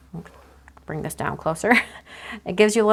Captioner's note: laughs